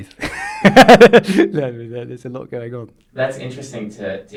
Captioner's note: laughs